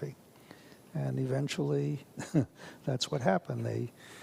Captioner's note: chuckles